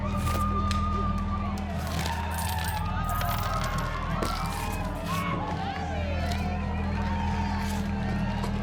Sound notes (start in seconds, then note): 0.1 tense music builds; 5.3 chatter continues in distance